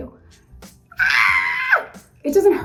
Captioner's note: screams